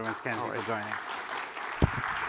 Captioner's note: applause